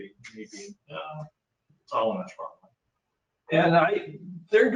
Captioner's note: speaking faintly